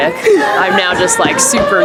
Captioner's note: laughs